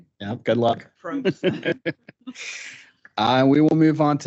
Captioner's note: laughing